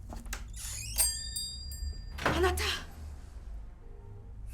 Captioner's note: door closes, bell jingles